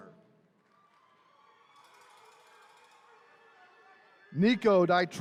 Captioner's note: attendees cheering